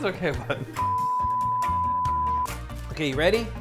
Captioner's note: laughs; long beep